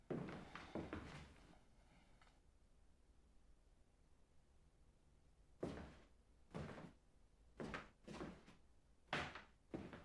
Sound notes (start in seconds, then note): none